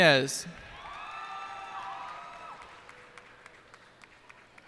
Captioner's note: cheers and applause